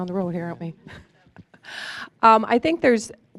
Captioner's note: chuckling